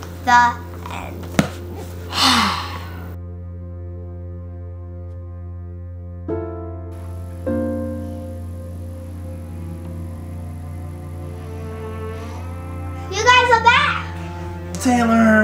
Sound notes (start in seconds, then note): 2.0 sighs; 5.3 calm music